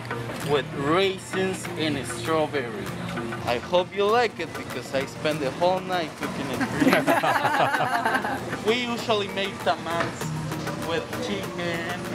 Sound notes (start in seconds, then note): 6.6 laughs